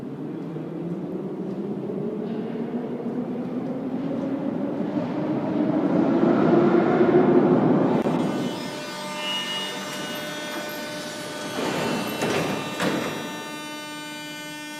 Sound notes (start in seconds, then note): 8.3 arrival of train at the station; 8.3 opening doors